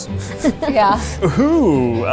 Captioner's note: laughs